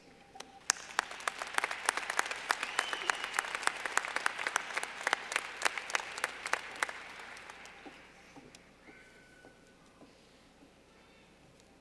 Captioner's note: clapping